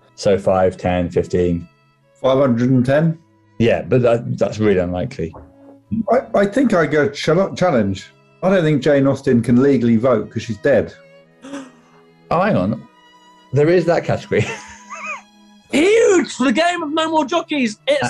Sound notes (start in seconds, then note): 11.3 gasps; 14.3 laughing